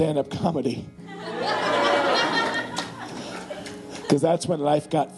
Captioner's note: audience laughing